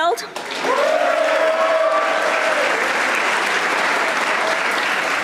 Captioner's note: audience applauding